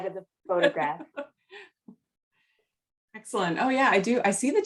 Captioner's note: laughter